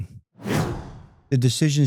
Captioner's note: air swooshes